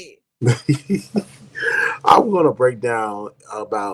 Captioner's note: laughing